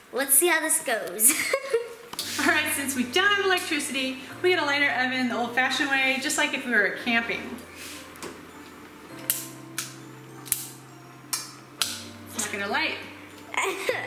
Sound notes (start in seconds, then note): 1.9 laughs; 9.5 clicks